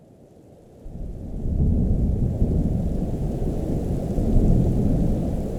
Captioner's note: thunder rumbling